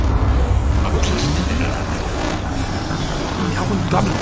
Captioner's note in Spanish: Voz distorsionada